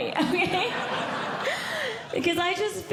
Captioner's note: audience Laughing